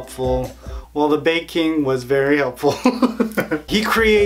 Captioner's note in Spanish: Risas